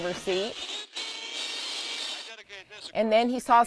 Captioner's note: muffled radio